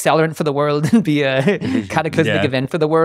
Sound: chuckling

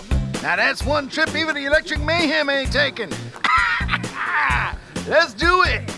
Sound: laughs

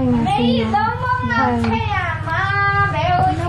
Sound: child yells

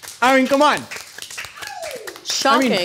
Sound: applause

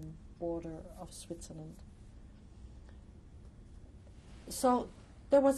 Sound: pauses for 3 seconds

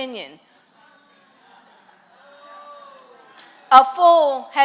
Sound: congregation chatter

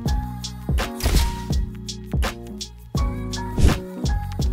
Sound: camera shutter snaps; relaxed lo-fi jazz music

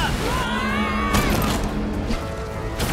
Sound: Sonic yelling; all yelling

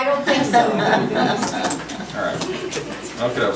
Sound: group laughs

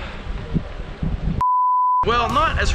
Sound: beep

